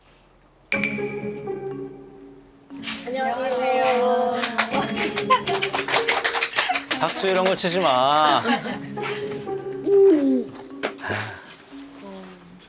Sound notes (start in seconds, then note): 3.9 they hurriedly welcome him with applause